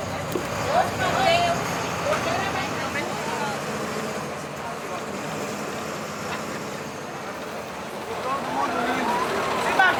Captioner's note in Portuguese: barulho de carros